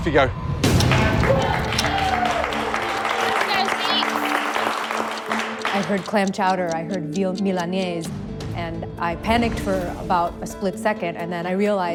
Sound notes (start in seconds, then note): 0.8 cheers and applause